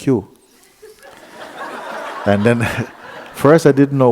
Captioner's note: laughter